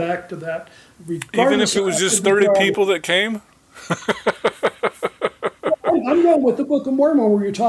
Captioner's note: chuckling